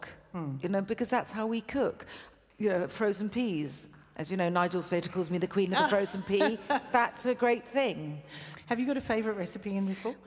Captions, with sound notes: You know, because that's how we cook. You know, the frozen peas. As , you know,, Nigel said, he calls me the queen of the frozen [laughs] pea. That's a great thing. >> Have you got a favourite recipe in this book?